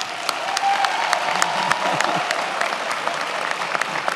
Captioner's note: many applauding